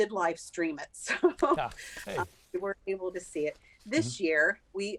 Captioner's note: chuckles